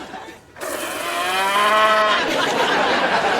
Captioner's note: cow mooing